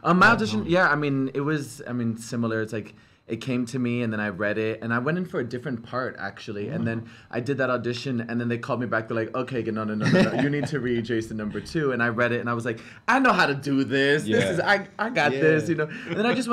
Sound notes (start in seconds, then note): 10.0 laughs; 15.6 laughs